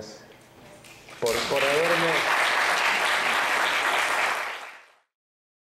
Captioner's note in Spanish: aplausos